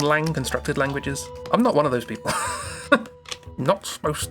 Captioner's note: laughs